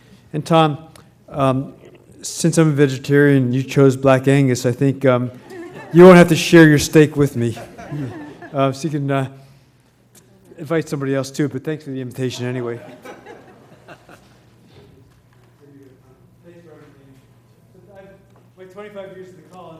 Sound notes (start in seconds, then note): 16.4 laugh